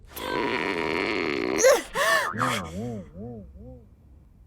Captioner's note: groans, gasps